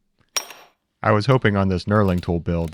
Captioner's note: metal clanking